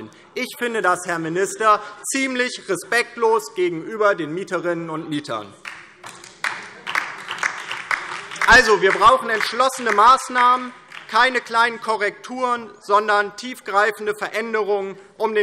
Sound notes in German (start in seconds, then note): 5.6 Beifall DIE LINKE